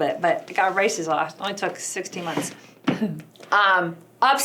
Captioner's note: clears throat